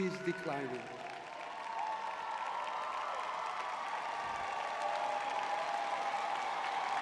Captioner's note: audience cheering